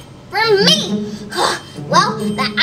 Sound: grunts

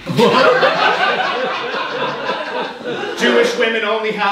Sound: audience laughing

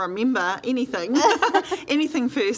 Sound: laughs

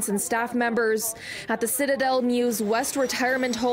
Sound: siren Wails

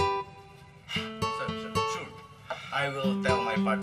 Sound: exhales

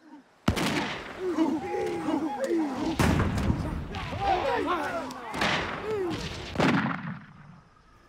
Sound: gunshots, chanting, battle sounds

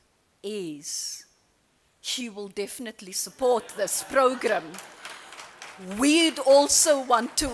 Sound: applause

